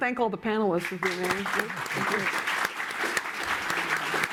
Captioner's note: applause